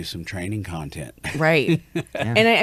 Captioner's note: chuckles